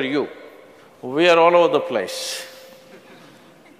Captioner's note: few laugh